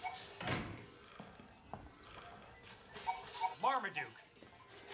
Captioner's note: cuckoo clock chiming